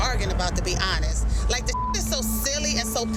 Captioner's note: beep